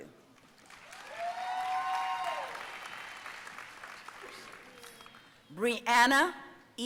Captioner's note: audience cheering and applauding